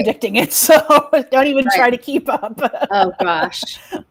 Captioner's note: laughs